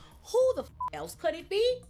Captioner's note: beep